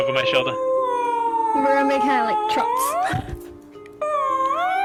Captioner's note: oooahhhhhhhhh